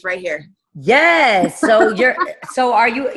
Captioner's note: laughing